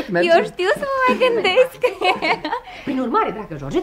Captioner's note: laughs